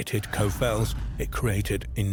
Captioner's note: fireball whooshing